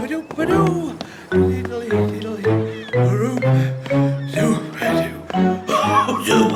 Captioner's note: echoing Footsteps; humming Continues